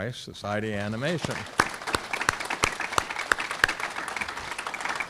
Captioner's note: audience clapping